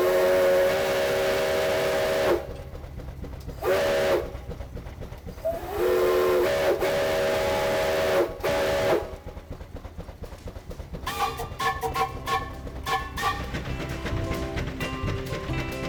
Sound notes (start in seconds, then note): 1.4 whistle blows